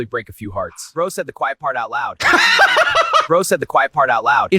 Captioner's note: laughs